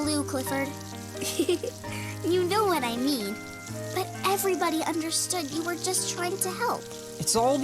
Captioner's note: laughing